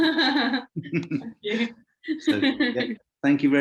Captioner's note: laughing